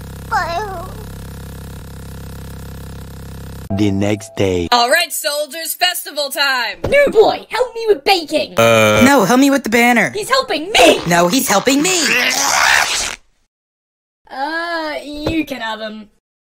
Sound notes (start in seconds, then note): 11.9 ripping in half scream